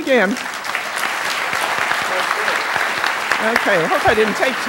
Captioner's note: applause